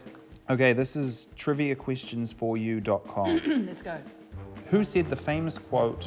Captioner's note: clears throat